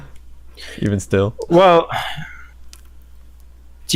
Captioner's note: sighs